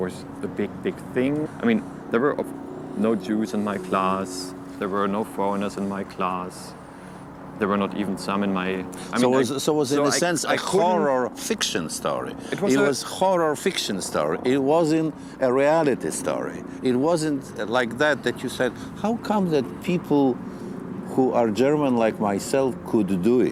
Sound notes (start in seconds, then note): 9.4 voice-over